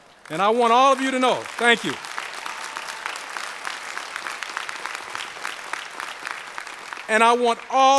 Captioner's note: applause